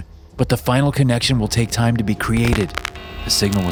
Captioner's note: static crackling; beeping